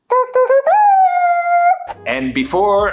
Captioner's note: humming celebratory music